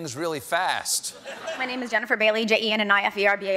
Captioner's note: speed talking